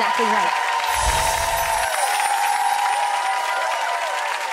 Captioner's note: audience applauds